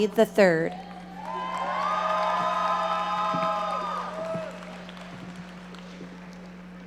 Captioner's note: audience cheering and applauding